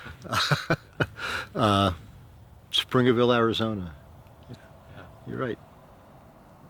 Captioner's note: laughs